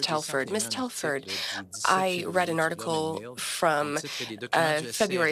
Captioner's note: speaking French